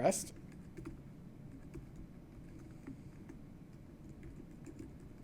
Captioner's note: typing on keyboard